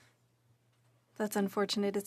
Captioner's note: speaking French